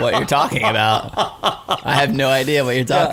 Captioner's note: laughing